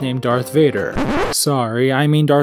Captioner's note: record scratch